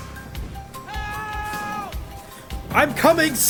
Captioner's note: man screaming